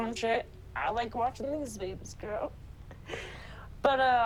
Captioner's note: chuckles